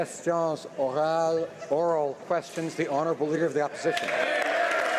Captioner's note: some Applause